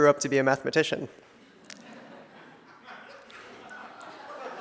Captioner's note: audience laughs